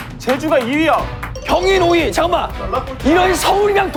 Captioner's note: laughing then realizing